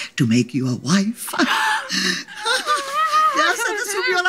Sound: joyful laughter

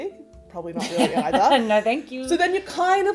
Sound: host laughs

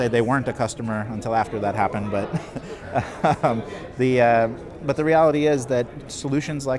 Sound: laughs

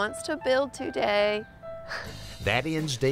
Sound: laughs

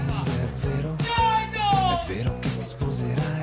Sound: voice in italian

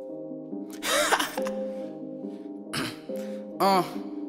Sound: clears Throat

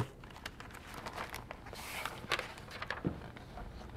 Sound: paper rustling

